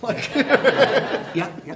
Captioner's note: laughter